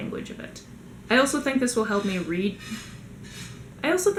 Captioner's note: raking noises